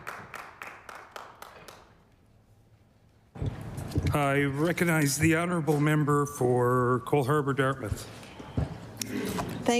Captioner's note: applause